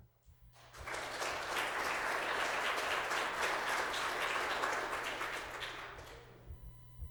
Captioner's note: applause